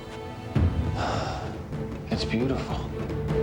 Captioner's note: sighs